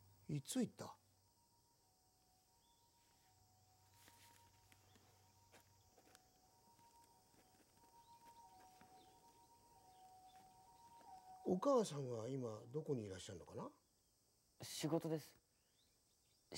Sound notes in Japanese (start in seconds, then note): 5.8 書く音